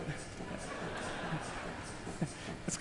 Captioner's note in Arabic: ضحك